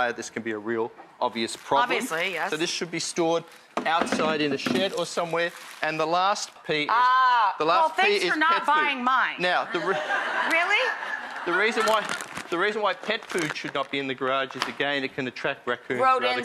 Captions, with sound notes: this can be a real obvious problem. Obviously, yes. So this should be stored outside in the shed or somewhere. And the last P. Ah, well thanks for not buying mine. (audience laughing) Really? The reason why pet food should not be in the garage is again it can attract raccoons and other critters as well.